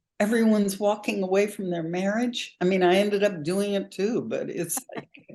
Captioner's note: chuckles